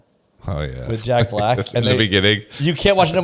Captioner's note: laughs